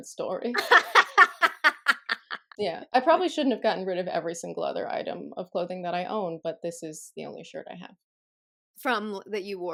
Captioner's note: laughter